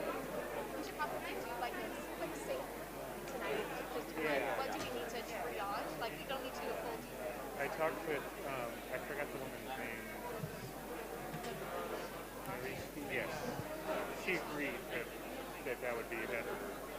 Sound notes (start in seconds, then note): 10.6 background chatter